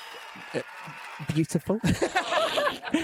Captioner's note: all laugh